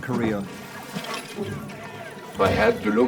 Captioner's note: men shouting